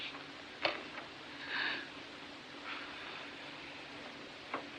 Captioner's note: inhales, Exhales Wearily